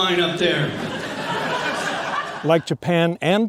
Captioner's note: audience laughing